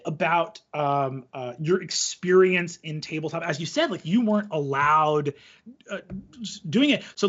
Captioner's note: none